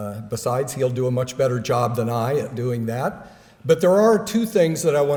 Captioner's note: none